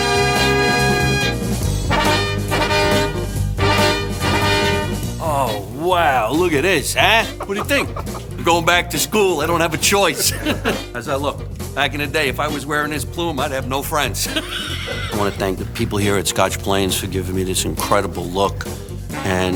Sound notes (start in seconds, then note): 10.5 chuckles; 14.2 laughs